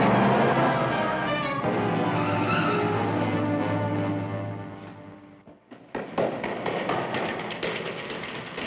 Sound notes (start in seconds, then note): 5.4 footsteps echoing